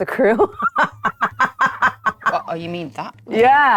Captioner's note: laughing